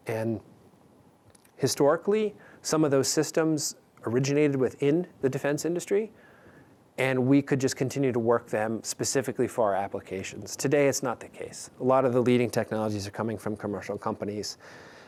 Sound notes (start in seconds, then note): none